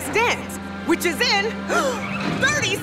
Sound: gasping

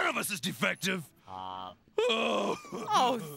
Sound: moans

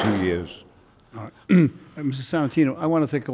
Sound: clears throat

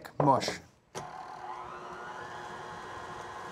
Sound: mixer whirring

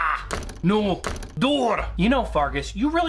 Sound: slam

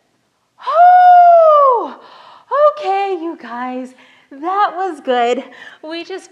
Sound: whooping

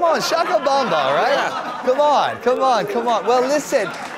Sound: applause

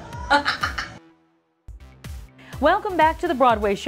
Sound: laughter

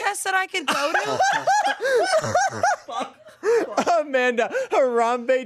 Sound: everyone laughs

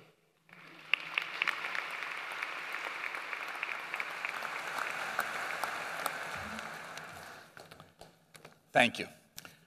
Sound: applause

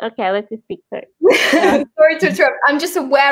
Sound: laughs

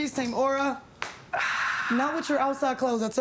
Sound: sighs

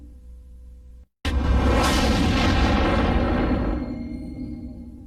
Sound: dramatic twister and helicopter sounds continuing

